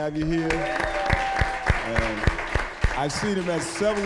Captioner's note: applause, cheering